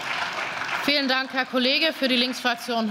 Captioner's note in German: Beifall